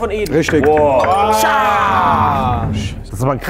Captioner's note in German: Freudige Laute